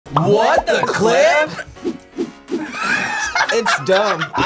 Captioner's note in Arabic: الجميع يضحكون